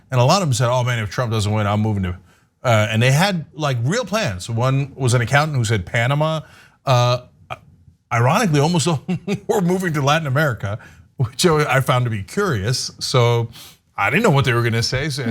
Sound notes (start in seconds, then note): 8.9 laugh